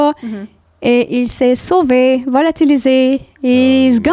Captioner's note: in french